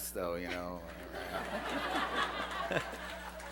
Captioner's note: laughter